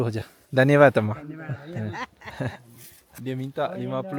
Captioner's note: speaking Nepali